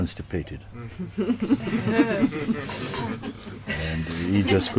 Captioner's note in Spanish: Risas